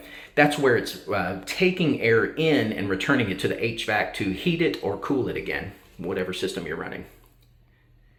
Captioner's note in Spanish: hvac